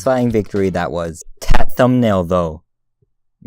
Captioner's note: stutters